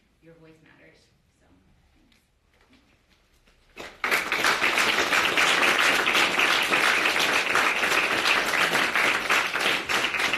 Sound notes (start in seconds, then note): 3.7 audience applauding